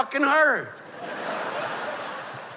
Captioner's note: laughter